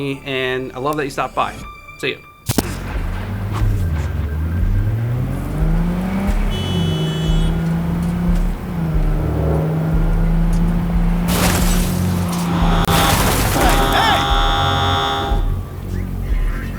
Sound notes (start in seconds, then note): 4.5 engine revving; 5.8 car horn honking; 10.4 car crashing; 13.8 car horn honking